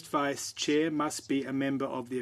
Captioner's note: speaking French